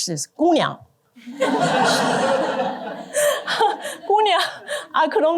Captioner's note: laughter